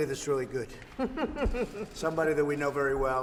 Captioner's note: laughs